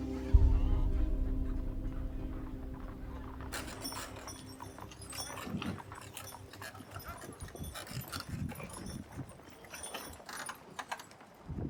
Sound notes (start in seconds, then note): 4.4 horses' hooves clopping; 4.4 townsfolk bustling